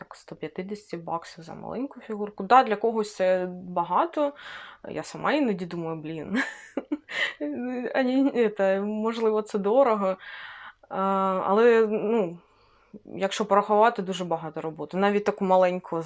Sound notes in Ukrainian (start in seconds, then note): 6.6 сміх